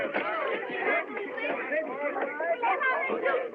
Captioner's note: chattering Continues |